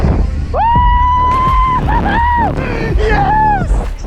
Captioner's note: yelling